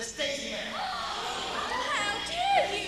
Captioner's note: gasps